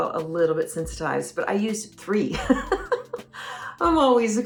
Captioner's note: laughs